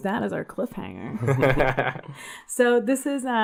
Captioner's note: laugh